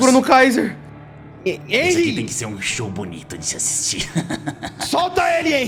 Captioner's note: laughs